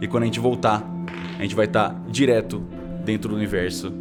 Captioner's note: dice rolling